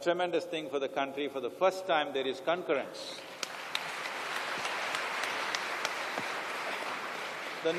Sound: applause

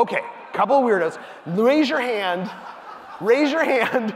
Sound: audience laughing

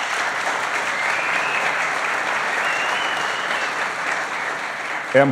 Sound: applause

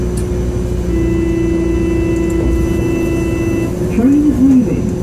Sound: buzzer

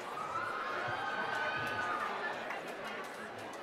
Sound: cheering

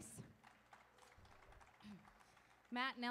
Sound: audience applauding

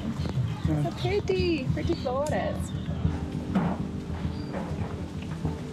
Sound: foreign language

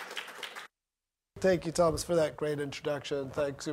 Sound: applause

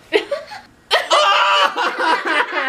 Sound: laughs

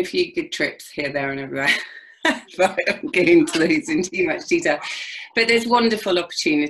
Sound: laughs

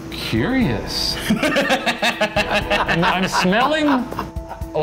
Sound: laugh

